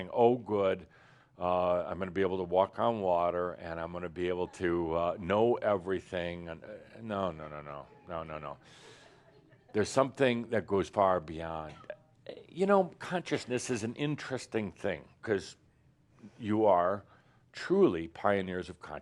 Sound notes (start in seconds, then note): 8.4 a few chuckles